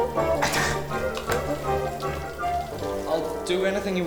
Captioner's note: sneezes